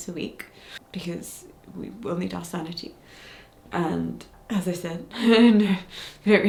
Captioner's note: chuckles